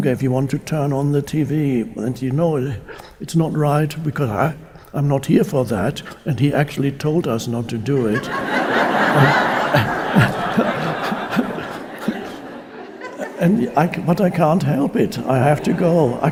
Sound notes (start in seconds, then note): 7.8 audience laughing; 7.9 Eckhart laughs